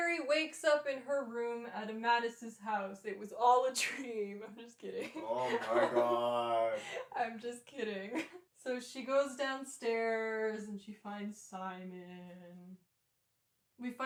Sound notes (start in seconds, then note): 4.9 laughter; 8.8 laughing